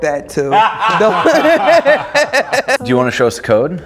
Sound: laughing

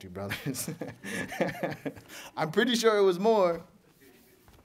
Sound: laughter

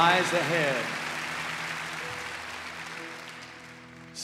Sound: cheers and applause

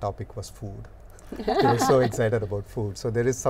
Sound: laughing

